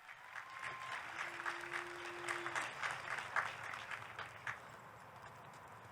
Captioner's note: audience cheering; audience clapping